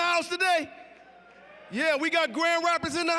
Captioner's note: audience cheering